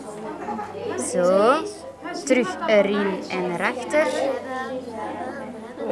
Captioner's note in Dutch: veel lawaai in de klas